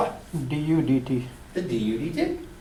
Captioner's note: voiceover